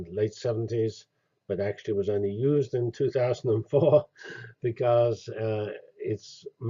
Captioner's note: laugh